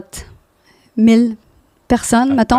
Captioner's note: in french